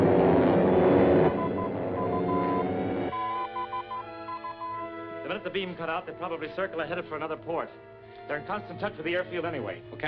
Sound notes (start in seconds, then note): 1.3 beeping